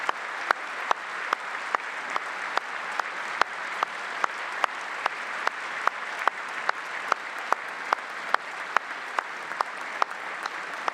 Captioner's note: applause